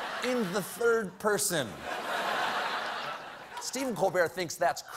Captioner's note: laughter